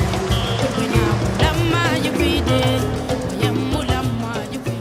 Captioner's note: foreign language